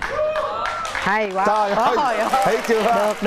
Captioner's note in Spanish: vítores